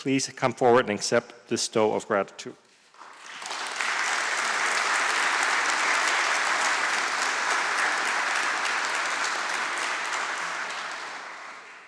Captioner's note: applause